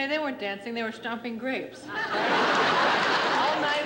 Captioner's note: laughter